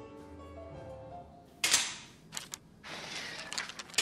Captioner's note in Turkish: Kapı açıldı